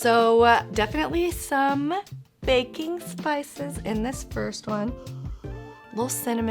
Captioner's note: inhales